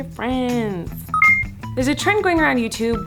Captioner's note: computer beeps